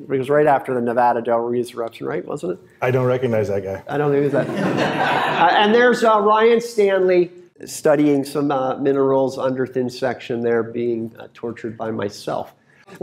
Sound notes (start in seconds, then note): 4.3 laughter